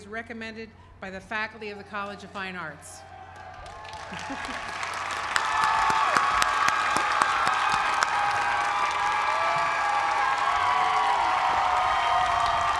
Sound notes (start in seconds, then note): 3.9 applause